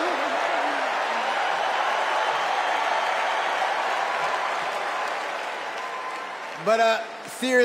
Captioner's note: applause